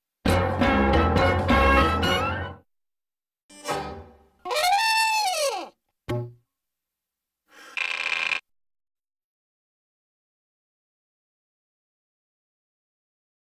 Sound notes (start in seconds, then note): 0.1 cartoon music plays; 4.3 horn blaring; 9.0 silence